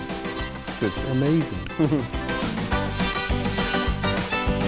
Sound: chuckles

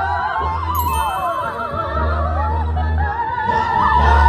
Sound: bell chiming

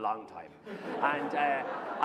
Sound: laughter

